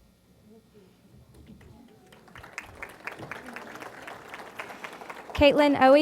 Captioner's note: applause